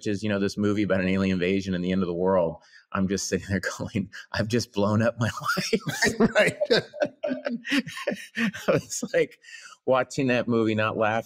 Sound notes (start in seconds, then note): 5.4 laughing; 5.4 laughs